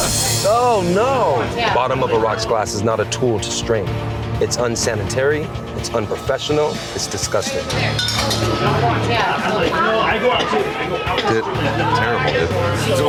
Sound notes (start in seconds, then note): 9.1 chatter